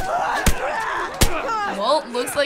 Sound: punches land; runner moans

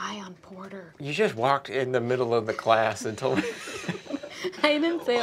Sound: laughter

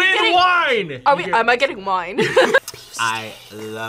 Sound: both laugh

